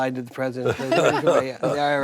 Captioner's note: group laughing